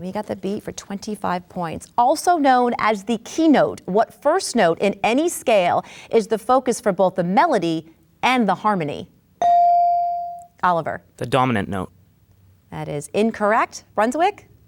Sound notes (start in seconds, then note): 9.4 bell dings